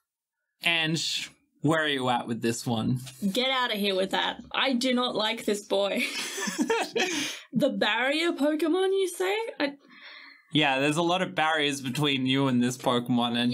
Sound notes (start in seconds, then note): 6.2 laughing